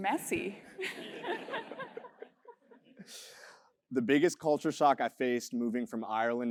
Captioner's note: laugh